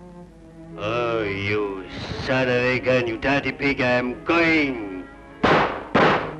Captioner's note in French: langue étrangère